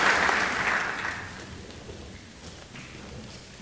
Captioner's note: applause